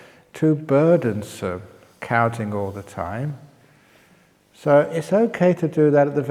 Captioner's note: none